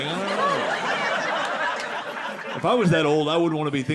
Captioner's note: audience laughing